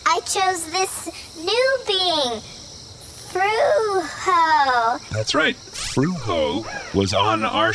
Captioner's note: hesitantly